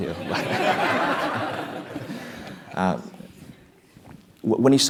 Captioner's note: laugh